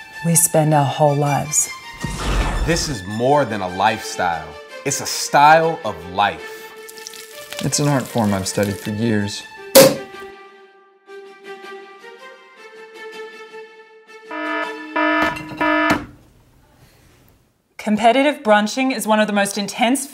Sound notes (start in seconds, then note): 7.0 upbeat instrumental music; 9.7 cork pops; 11.4 upbeat instrumental music; 14.3 alarm rings